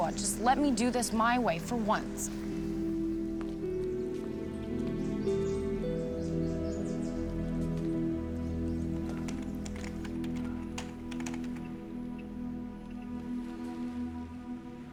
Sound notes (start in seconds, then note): 2.6 somber music; 8.8 keyboard clacking